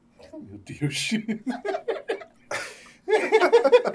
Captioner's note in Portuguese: risadas